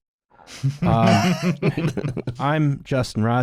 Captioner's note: laughter